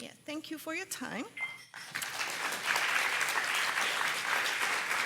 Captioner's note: applause